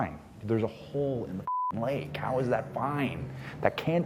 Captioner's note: beep